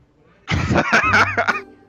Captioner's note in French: rires